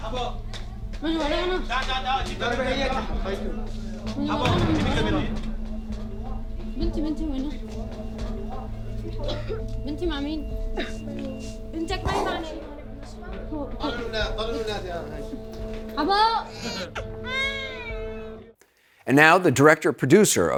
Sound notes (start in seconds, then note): 17.2 child crying